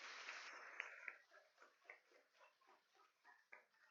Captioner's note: applauding